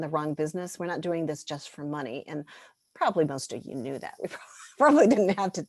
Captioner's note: laughter